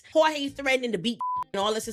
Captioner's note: beep